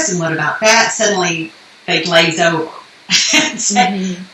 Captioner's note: laughs